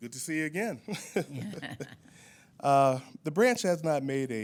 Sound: laughing

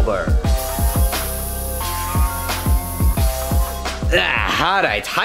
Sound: paint fizzing

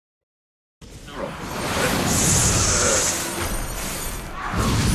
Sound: battle sounds

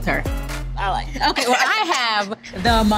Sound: laughing happily

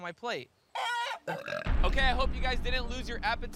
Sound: clucking

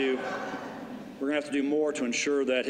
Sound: laughter

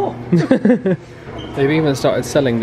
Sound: laughing

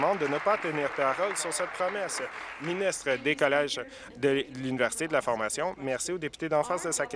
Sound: applause

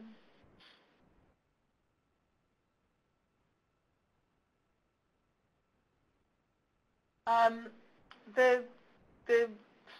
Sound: pause

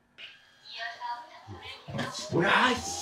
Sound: vacuum sounds

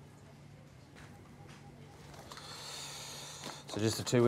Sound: office background noise

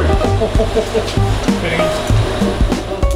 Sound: laughs

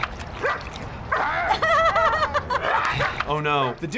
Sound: laughing

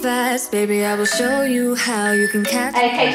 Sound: alarm beeping

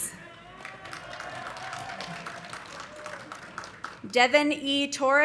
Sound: audience cheering; audience applauding

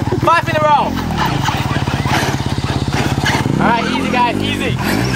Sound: motor hums

